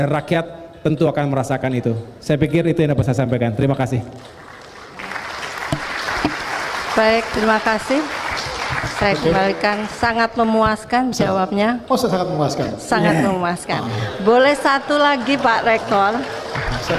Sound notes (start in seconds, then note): 4.1 applause